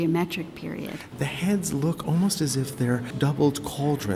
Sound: voiceover

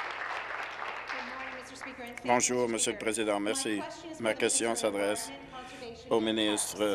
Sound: applause

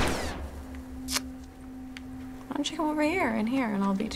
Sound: gunshot; clicks tongue

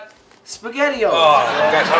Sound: audience laughs

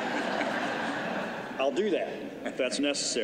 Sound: laughter

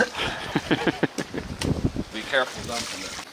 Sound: laughing

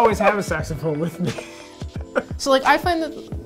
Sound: laughs

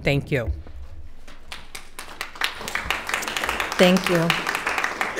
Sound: attendees applauding

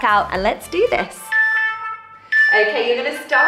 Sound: timer beeping

